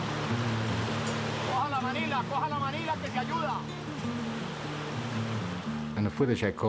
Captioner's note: foreign Language